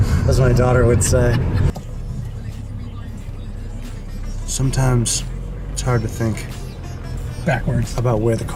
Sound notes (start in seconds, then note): 1.3 laughs; 2.4 voice speaks on radio